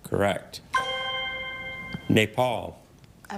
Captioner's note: ethereal ring